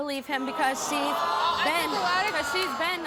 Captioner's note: audience boos